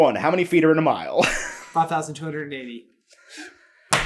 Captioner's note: laughing